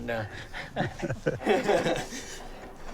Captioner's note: men laughing